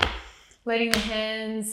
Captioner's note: breathes in and out